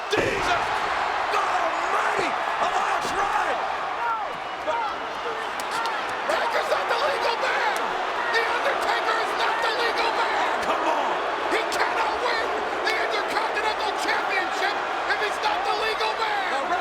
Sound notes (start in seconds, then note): 3.5 audience cheers; 10.5 audience jeers